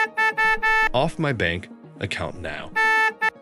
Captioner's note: beep